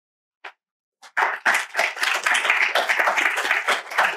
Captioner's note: applause